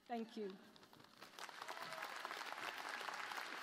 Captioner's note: applause